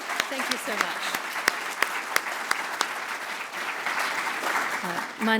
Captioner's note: applause